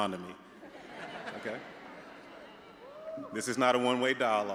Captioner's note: all laughing